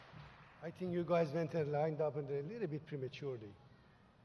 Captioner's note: applause